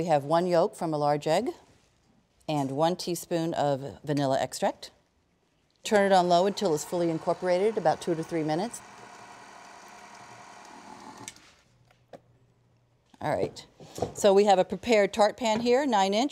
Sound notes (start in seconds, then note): 10.0 mixer whirring; 11.6 mixer stops